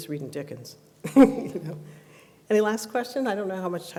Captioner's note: laughs